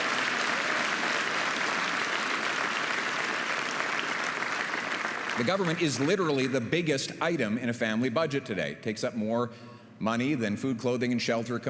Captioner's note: applause